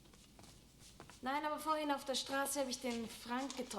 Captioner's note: speaking german